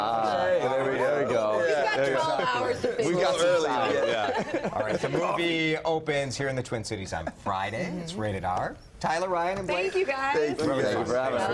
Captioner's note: laughter